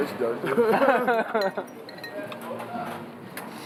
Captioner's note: laughter